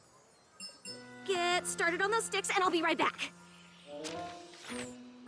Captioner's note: chiming